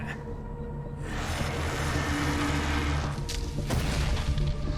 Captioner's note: dinosaur growling; dramatic music